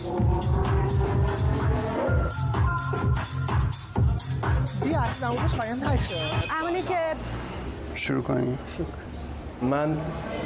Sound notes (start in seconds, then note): 0.0 techno Music Playing; 5.9 taxi Beeps